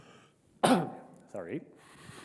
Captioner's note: clears throat